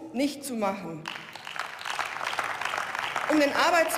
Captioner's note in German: Beifall